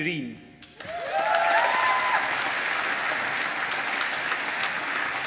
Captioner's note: applause